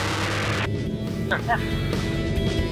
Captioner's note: laughs